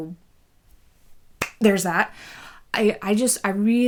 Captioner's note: claps